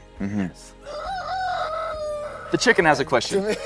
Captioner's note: rooster crowing